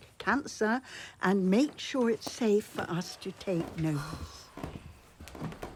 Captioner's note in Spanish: Jim suspira